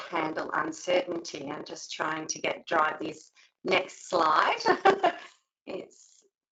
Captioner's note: laughs